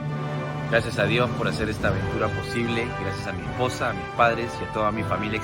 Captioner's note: speaks foreign language